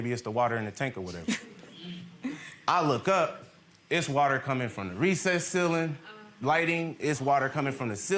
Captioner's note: laughs